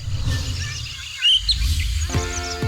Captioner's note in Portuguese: pássaros cantam